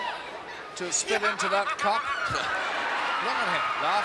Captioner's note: Jim laughs